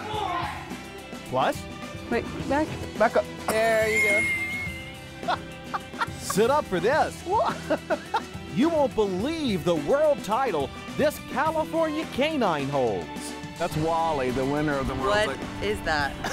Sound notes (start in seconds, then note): 0.0 man yelling; 5.2 laughter